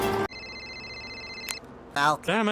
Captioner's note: music Fades Away; phone Rings